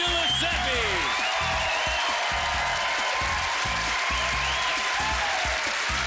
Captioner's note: applause